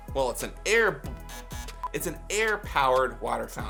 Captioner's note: buzzer buzzes